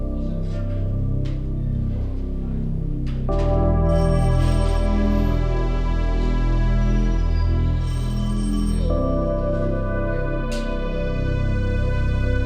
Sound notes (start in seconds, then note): 4.0 telephone ringing; 6.9 gentle music